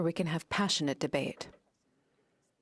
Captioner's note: speaking French